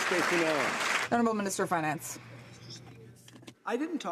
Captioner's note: some Applause